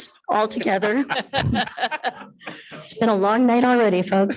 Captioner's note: attendees laughing